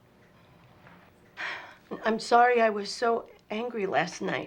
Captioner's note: sighs